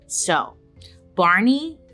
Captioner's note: none